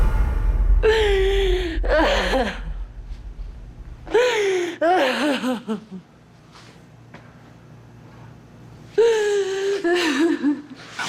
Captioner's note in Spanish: Sollozos